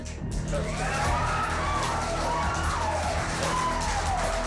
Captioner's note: clapping, cheering